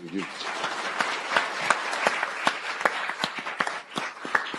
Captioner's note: applause